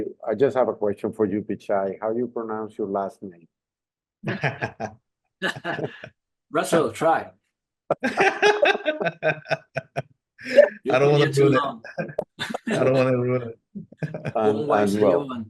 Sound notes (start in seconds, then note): 4.2 laughs; 7.9 laughter